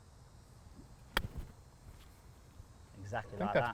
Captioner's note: golf club swinging